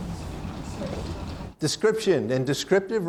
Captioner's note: woman speaking off microphone